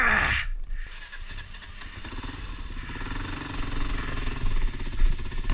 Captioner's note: motorcycle starting